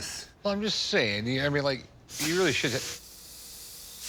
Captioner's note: smoke machine hissing